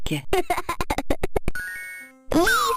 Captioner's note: kid laughing